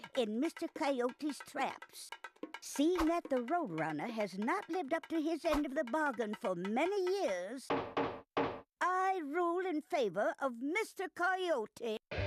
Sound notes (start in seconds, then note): none